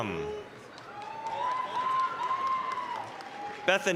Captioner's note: applause, cheering